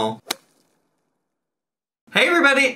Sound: screen pops

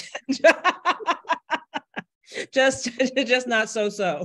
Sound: laughs; panelist laughs

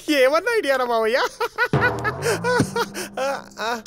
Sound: laughing

